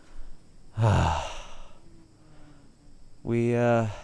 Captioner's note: sighing